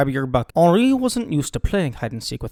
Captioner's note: in shitty British accent